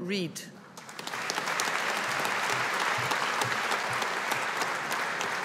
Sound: audience applauding

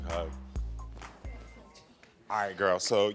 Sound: murmurs

